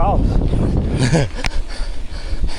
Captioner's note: laughing